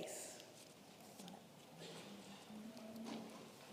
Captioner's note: paper rustling